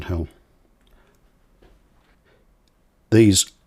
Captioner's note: silence